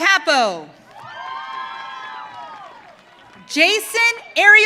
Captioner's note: audience cheering